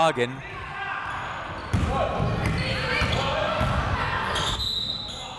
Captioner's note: crowd members shouting